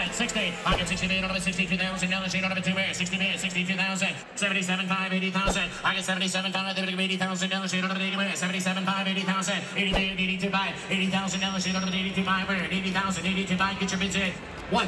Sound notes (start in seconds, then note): 0.3 auctioneer chant; 6.2 auctioneer chant